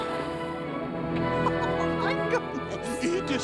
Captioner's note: chuckling